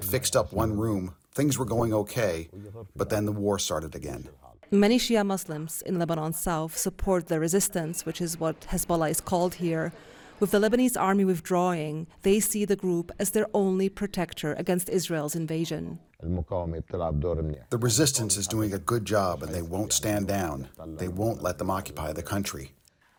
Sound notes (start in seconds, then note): 18.0 through translator